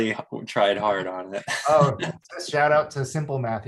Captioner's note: laughs